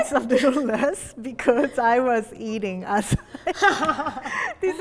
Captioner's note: laughing